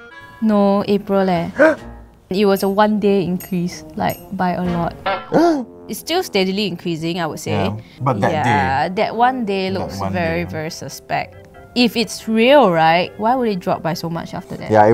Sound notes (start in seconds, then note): 1.6 gasp; 5.2 gasp